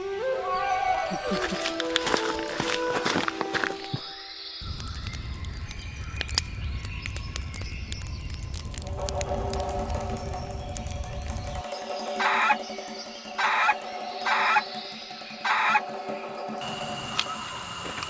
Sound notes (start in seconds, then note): 1.1 ape chuckling; 5.1 fire crackling; 12.2 dinosaur squawking